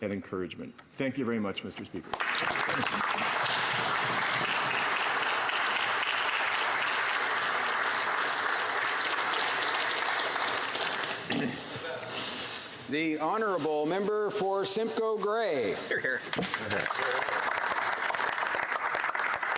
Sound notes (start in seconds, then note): 7.1 applause